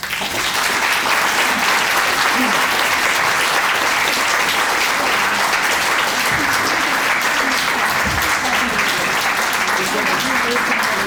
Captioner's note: applause